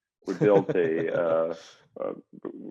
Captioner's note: chuckles